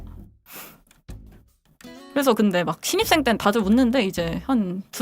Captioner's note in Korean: 콧방귀